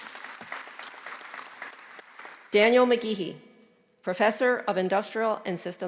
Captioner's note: applause